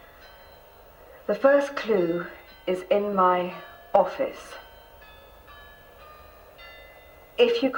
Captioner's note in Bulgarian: BELLS звъненето на лента